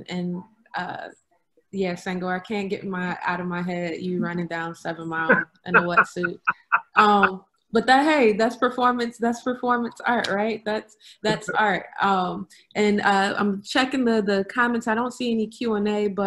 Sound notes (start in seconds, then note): 5.7 laughs